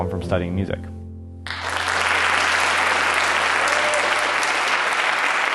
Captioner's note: applause